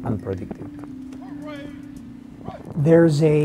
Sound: military formation sounds

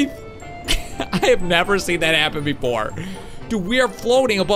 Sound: laughs

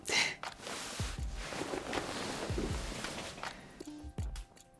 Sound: duvet bustles

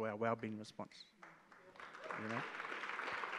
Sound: audience claps

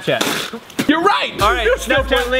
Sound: spitting

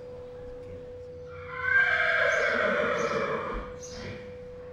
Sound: hors neigh's

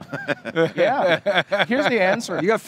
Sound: hosts laughing

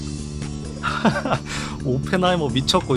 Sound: laughing

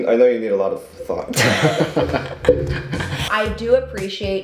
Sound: laughing

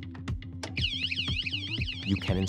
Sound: alarm rings

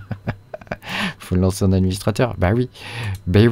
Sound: laughs

